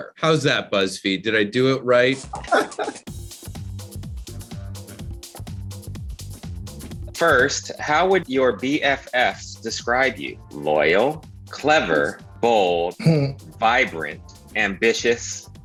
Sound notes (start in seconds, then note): 2.3 Brandon laughs; 3.3 upbeat instrumental music